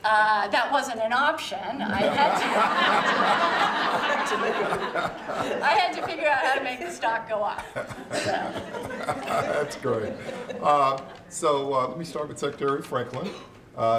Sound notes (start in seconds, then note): 1.9 laughter; 7.5 chuckles